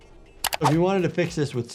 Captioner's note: mouse clicks